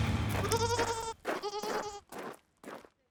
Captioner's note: goat bleats